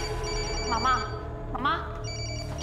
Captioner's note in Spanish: Suena el celular